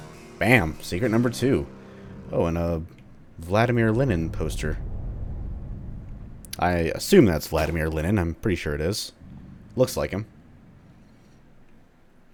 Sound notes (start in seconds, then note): 0.0 riff plays; 7.1 accidental whack